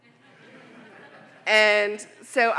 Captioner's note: audience laughing